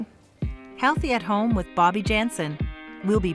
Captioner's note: voiceover